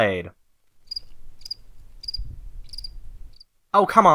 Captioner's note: crickets